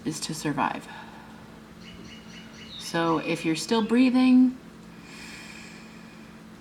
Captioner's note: takes a breath in and exhales next words